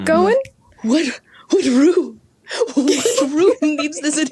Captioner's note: giggle